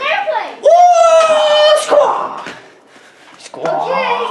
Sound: airplane noises

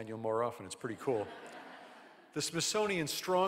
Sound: audience laughing

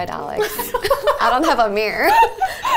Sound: laughing

